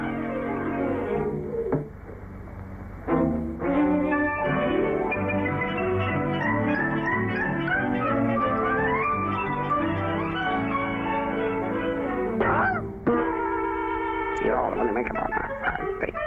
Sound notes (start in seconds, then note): 12.4 squawks; 13.9 muttering